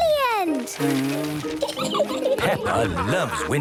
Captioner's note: blows